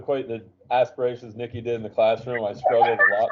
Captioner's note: laughing